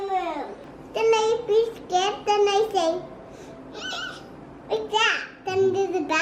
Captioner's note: fearful squeaking